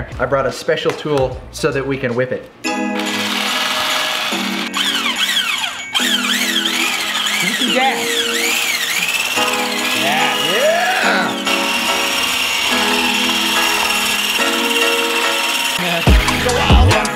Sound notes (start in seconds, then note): 2.6 light melodic music; 2.6 mixer whirring